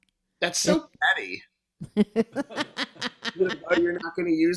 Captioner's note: woman laughing